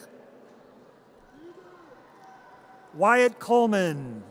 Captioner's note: audience cheers